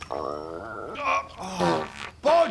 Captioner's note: pfffpt